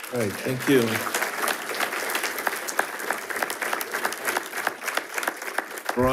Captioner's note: attendees applauding